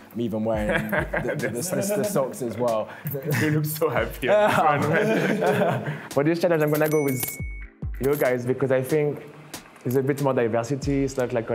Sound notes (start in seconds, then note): 4.2 laughter